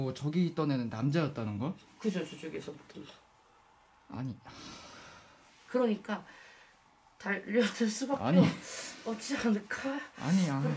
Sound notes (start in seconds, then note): 4.4 Breathing out